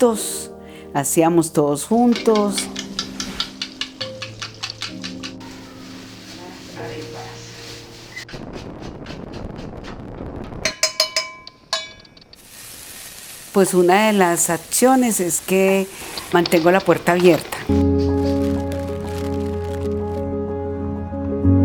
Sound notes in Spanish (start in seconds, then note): 2.0 Tenedor golpetea en la taza; 5.5 Bolsa plástica cruje; 8.5 Llamarada de gas murmulla; 10.6 Estruendo de golpes a la cacerola; 12.6 Sonido comoda cocinándose